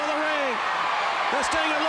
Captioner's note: crowd cheering